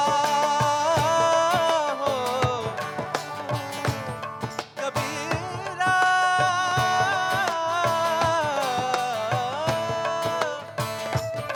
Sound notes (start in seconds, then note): none